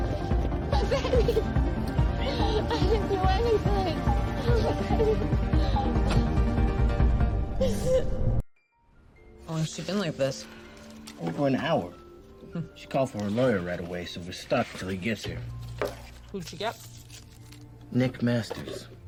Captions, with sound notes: [sobbing] My babies! I didn't do anything. [sobbing] How long has she been like this? Over an hour. She called for her lawyer right away so we're stuck until he gets here. Who'd she get? Nick Masters.